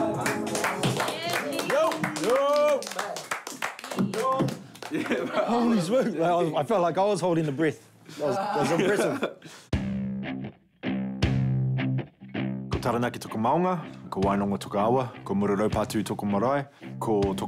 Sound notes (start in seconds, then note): 0.0 upbeat music; 0.2 clapping; 4.8 gasping